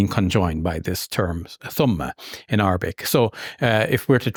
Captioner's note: speaking in Arabic